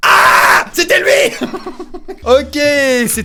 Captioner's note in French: rire